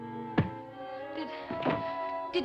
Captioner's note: thud